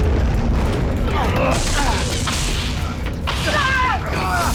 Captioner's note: explosion; grunts; screams